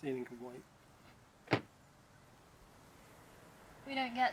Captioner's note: wind